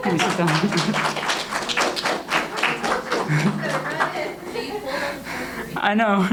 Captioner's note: audience applauds